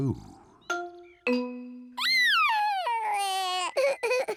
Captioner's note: sobbing